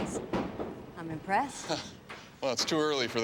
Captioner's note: chuckles